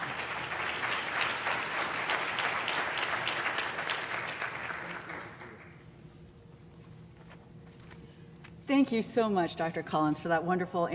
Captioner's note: applause